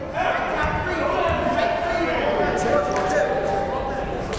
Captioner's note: yelling